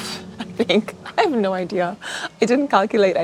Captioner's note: laughs